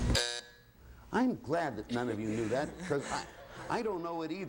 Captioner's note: buzzer